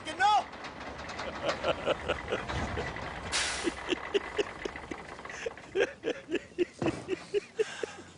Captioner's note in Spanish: Risas